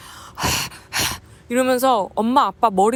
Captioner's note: panting